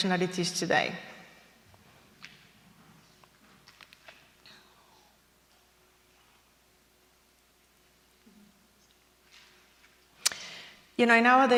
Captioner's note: silence